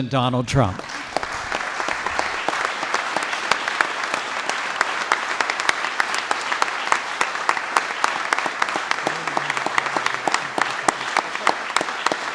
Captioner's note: applause